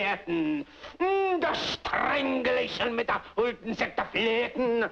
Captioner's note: continues In Mock German